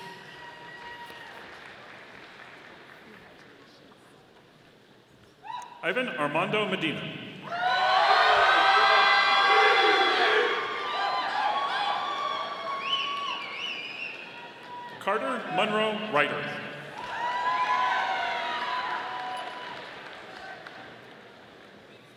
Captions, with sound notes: (audience applauding) Ivan Armando Medina. (audience applauding) Carter Munro Reiter. (audience applauding)